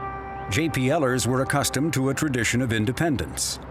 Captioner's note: none